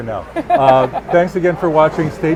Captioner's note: laughing